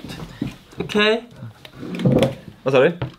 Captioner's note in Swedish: förställd röst